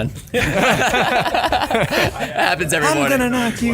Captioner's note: laughing